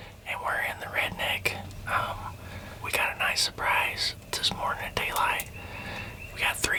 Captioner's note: whispering